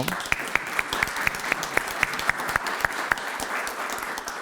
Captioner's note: audience clapping